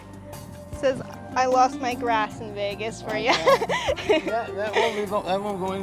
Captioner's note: laughs